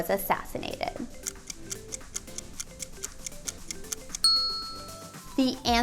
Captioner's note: timer ticking; ding